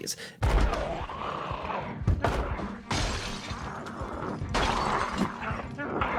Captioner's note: light tense music; zombies growling